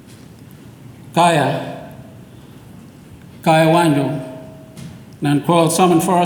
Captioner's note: speaks in foreign language